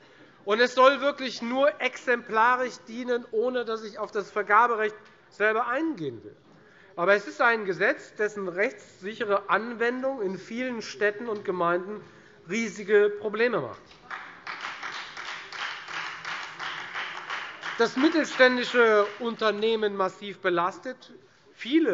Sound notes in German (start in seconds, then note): 14.0 Beifall Freie Demokraten